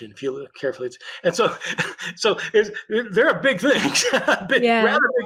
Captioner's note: laughs